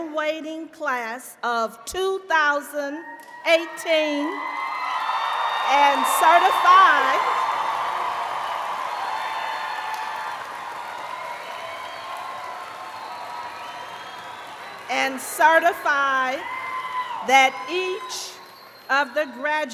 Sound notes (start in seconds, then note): 5.1 cheers and applause